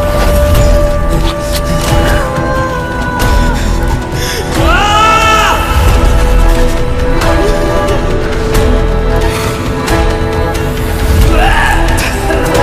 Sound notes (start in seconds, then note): 4.7 bellows; 7.4 sobbing